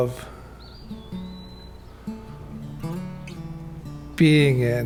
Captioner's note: bird chirping